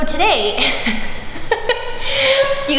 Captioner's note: laughs softly